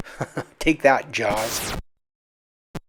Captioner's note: chuckles